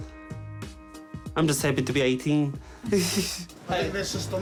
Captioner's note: laughs